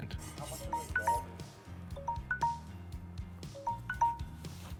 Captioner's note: phone tinkling ringing